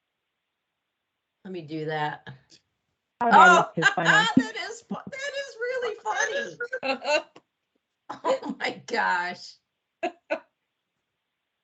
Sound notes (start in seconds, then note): 3.6 laughs